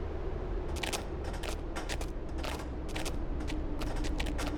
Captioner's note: footsteps tapping